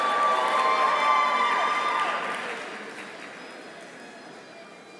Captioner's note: audience cheering